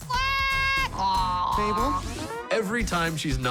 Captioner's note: groaning